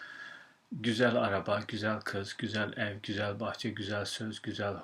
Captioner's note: non-english speech